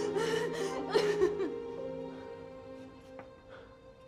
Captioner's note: Aleks sobbing